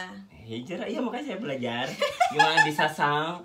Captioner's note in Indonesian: ketawa